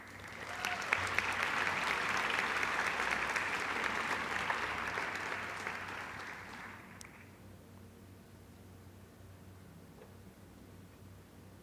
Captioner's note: applause